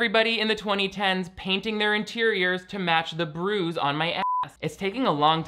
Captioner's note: beep